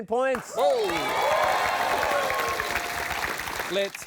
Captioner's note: cheering and applause